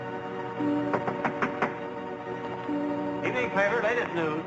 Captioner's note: knocking